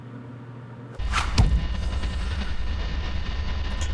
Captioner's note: knife whoosh, thud